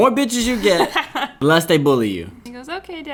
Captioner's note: laughing